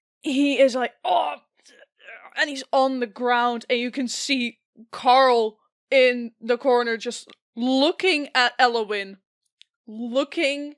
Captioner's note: grunts in pain